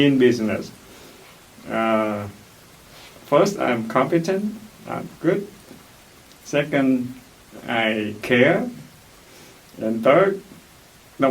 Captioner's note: laughs